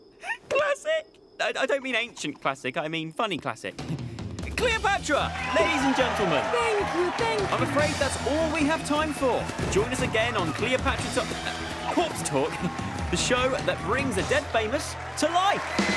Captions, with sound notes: Classic! I don't mean "Ancient" classic, I mean funny classic. Cleopatra, ladies and gentlemen. (crowd cheering) - Thank you, thank you. - I'm afraid that's all we have time for. Join us again on Cleopatra Ta-- Uh, Corpse Talk! The show that brings the dead famous to life!